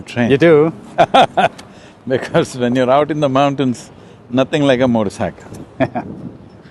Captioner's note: Sadhguru laughs; laughs